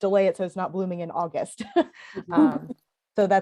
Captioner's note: laughter